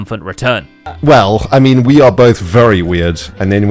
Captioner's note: laughs